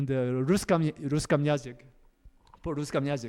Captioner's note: russian